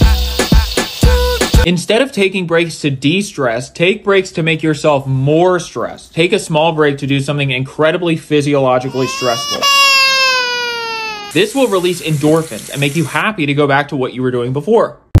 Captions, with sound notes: Instead of taking breaks to de-stress take breaks to make yourself more stressed. Take a small break to do something incredibly physiologically stressful. *baby crying* This will release endorphins and make you happy to go back to what you were doing before!